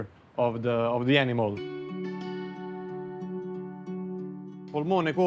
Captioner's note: speaking Italian